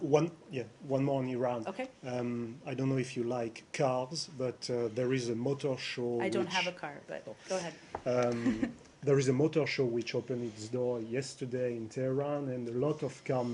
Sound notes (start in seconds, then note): 8.2 laughter